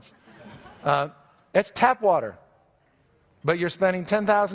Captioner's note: audience laughs